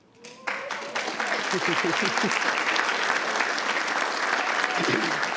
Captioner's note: attendees applauding and cheering